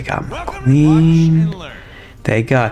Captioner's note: inhales Oxygen